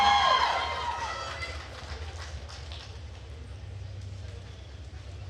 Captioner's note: attendees cheering and applauding